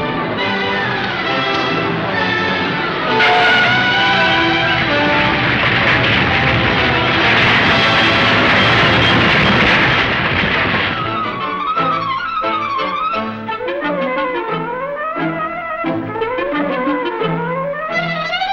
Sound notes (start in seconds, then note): 3.3 tires squealing; 7.8 metal clattering; 10.8 flighty, suspenseful music